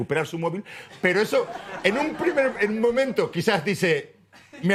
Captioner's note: laughs